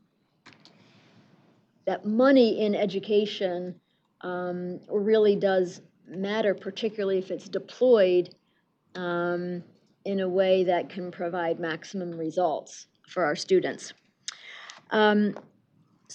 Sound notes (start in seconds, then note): none